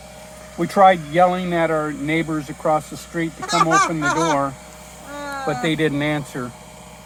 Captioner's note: laughs